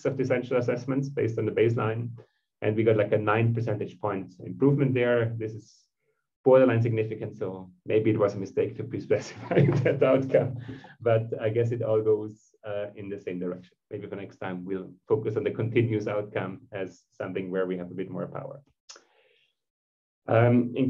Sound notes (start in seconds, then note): 9.2 laughter